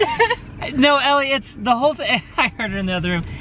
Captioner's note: laughs